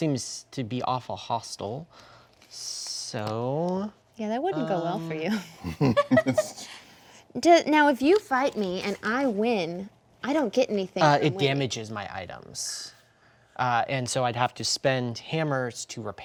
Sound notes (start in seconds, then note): 5.5 laughing